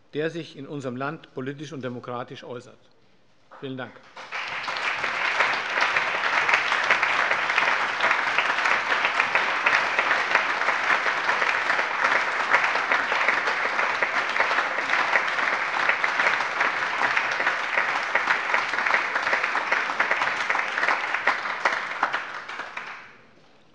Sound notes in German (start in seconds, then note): 5.7 Allgemeiner Beifall